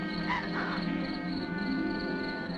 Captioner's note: crying